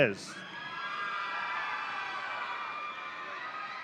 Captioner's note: audience cheering